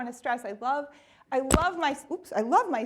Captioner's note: hits mic